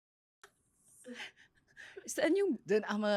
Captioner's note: laughs